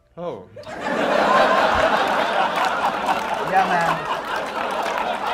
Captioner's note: laughter